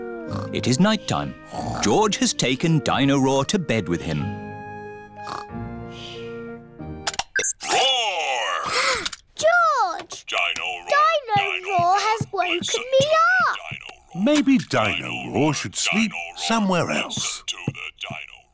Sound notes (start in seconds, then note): 0.0 snoring; 8.3 gasps